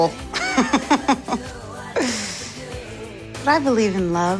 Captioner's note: laughs